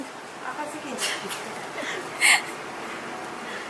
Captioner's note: laughs